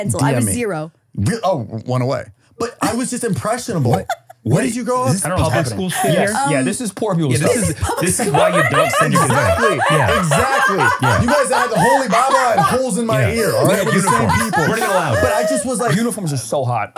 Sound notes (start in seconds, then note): 6.7 laughing